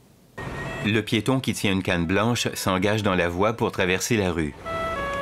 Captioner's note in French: signal sonore